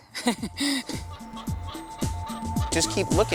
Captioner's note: chickens clucking